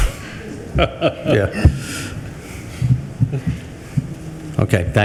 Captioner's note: group laughs